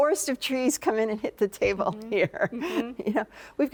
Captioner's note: laughs